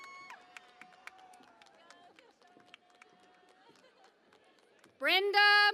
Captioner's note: cheering and Applause